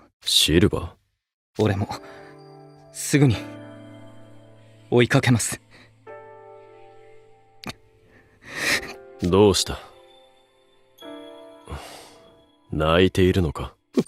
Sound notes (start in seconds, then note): 8.1 sniff